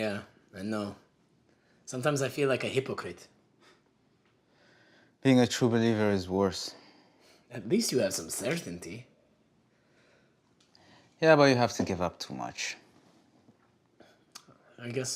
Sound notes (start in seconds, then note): none